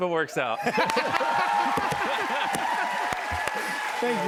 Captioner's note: cheers and applause